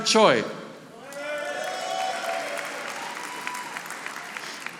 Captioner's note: audience applauding